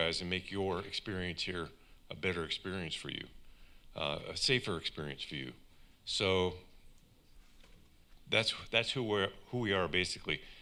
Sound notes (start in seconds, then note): none